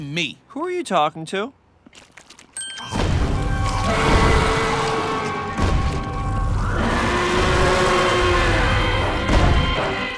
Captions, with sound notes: Who are you talking to? [roaring]